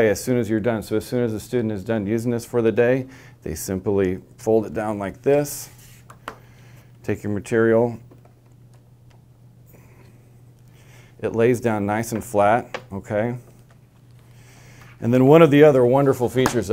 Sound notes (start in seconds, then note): 5.8 no audio; 8.3 no audio